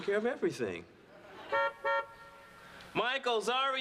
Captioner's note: horn honks